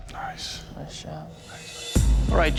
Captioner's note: whispering